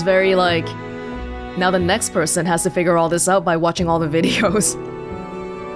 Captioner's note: chuckles